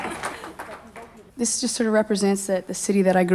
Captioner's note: applause